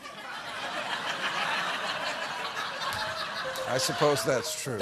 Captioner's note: laughter